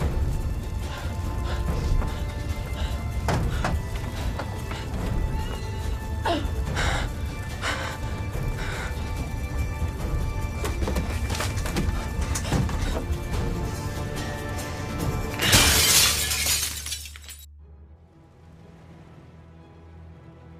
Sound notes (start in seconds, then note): 0.2 Ava panting; 3.0 dramatic music continues; 15.3 glass shatters; 17.5 dramatic music